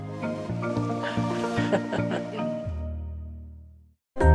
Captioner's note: chuckles